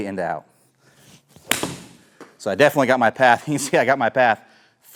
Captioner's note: club smacking